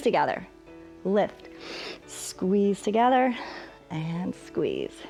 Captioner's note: inhales